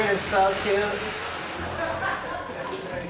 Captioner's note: laughter